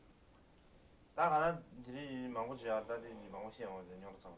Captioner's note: non-english speech